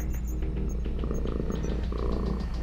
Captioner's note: Robotic voice; purrs; Robotic voice